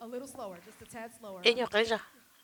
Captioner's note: rhythmic clapping